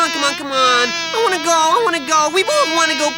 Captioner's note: fly buzzing